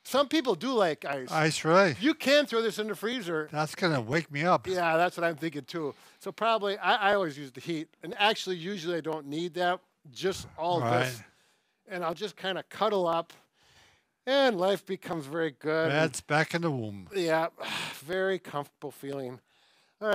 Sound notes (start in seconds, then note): 17.6 sighing comfortably